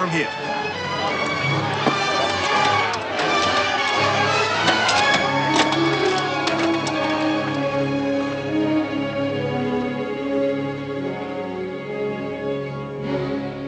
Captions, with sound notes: Go on, quick. Get away from here. (people shouting) (somber music)